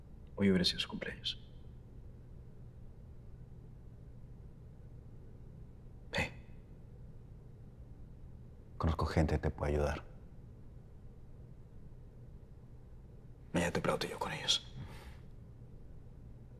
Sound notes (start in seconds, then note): 0.5 Spanish; 6.4 Spanish; 13.2 Spanish